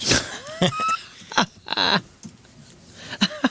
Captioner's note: laughter